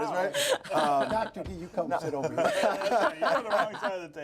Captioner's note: laughter